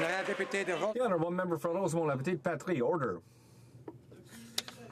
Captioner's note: some Applause